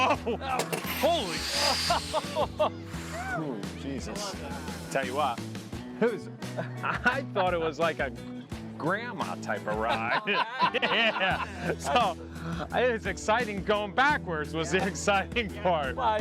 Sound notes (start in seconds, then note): 1.3 laughs; 9.8 laughs